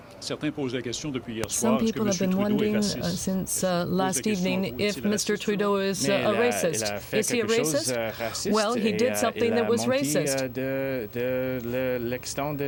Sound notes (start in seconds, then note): 7.4 speaking french